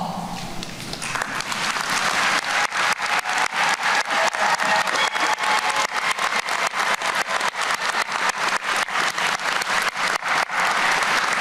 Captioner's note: applause